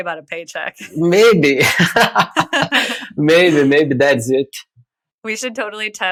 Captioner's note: <Laugh>